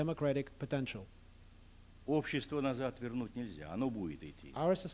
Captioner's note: non-english speech